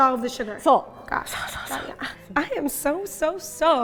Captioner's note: speaking in Japanese